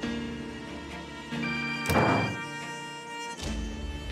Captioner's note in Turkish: Telefon çalıyor